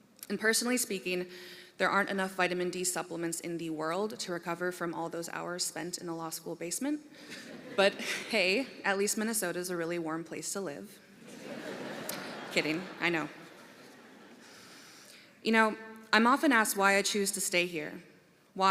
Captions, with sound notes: AND, PERSONALLY SPEAKING, THERE AREN'T ENOUGH VITAMIN D SUPPLEMENTS IN THE WORLD TO RECOVER FROM ALL THOSE HOURS SPENT IN THE LAW SCHOOL BASEMENT. [ LAUGHTER ] BUT, HEY, AT LEAST MINNESOTA IS A REALLY WARM PLACE TO LIVE. [ LAUGHTER ] KIDDING, I KNOW. YOU KNOW, I'M OFTEN ASKED WHY I CHOOSE TO STAY HERE.